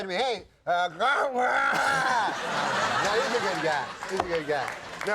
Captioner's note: Norm groaning